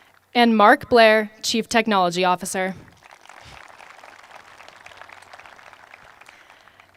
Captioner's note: applause